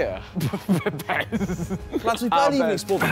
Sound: laughing

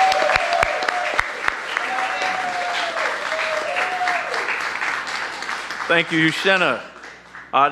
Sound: cheers and applause

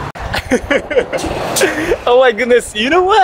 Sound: laughs

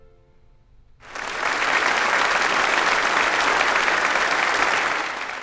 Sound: audience applauds

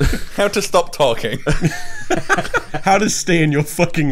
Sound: all laughs

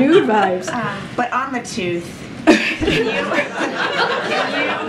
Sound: laughs; laughter

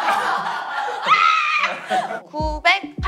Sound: screaming

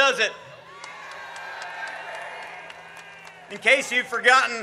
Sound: audience cheers

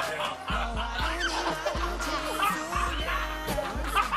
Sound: heheh

